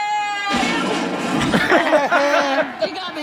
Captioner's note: trash can rattles loudly